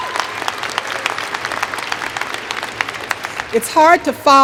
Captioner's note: applause